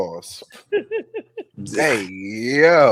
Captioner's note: laughing